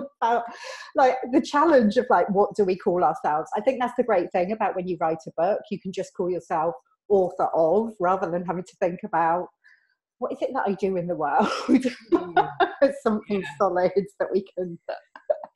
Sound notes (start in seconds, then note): 12.1 laughs